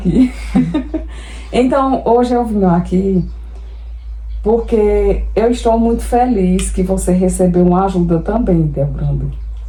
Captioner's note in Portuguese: risadas